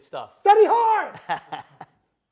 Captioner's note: laughing